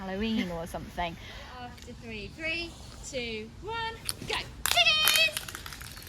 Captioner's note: calls out